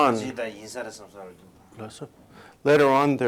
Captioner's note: non-english speech